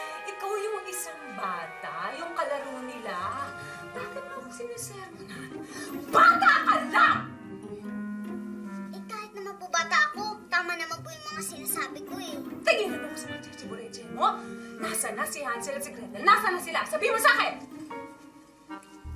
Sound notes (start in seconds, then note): none